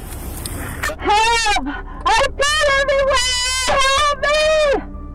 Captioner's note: suspect screaming